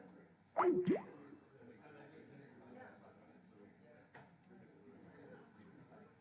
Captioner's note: electronic computer sounds